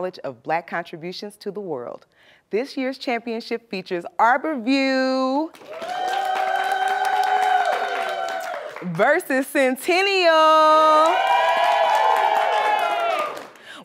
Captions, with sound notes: of Black contributions to the world. This year's championship features Arbor View... (cheers and applause) versus Centennial! (cheers and applause)